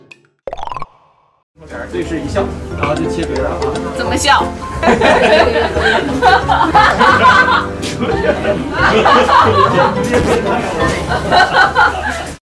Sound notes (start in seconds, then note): 4.9 ha ha ha ha ha ha ha ha; 7.8 hahahahahaha